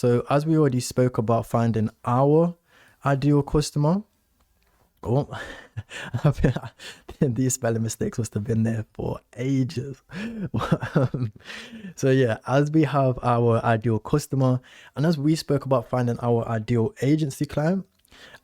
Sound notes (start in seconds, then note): 10.1 laughs